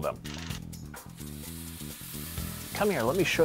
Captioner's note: sizzles